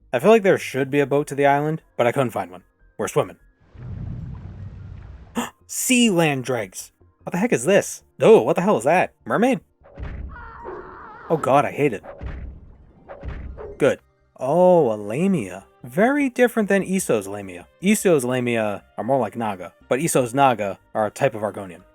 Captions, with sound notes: I feel like there should be a boat to the island, but I couldn't find one. We're swimming. *gasp* Sea land Dreughs! What the heck is this? Oh, what the hell is that? Mermaid? *mermaid thing screams* Oh god, I hate it. Good. Oh, a Lamia. Very different than ESO's Lamia. ESO's Lamia are more like Naga, but ESO's Naga are a type of Argonian.